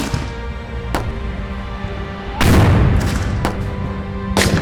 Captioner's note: gunshot cracking continues